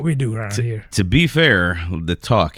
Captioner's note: uh